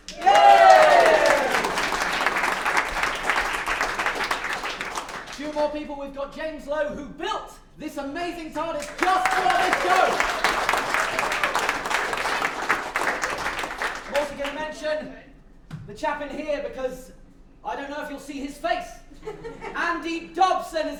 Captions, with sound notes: *APPLAUSE* We've got James Lowe who built this amazing TARDIS just for this show! *APPLAUSE* Also gonna mention, the chap in here because I don't know if you'll see his face! Andy Dobson!